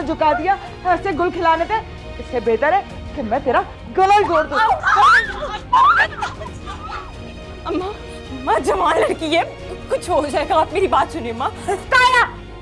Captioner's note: screaming sound